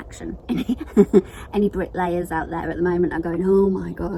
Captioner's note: laughs